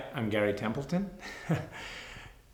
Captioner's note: chuckles